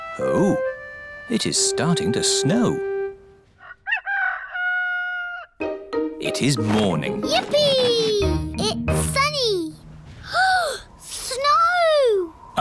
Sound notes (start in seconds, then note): 3.5 rooster crowing; 10.2 gasps